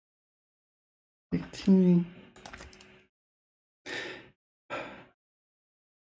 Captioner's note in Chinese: 叹气